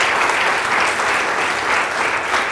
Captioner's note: applause